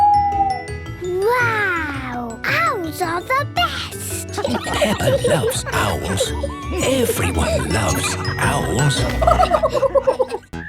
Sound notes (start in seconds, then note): 0.2 hooting; 3.9 kids giggling; 5.3 narrator whispering; 9.4 laughing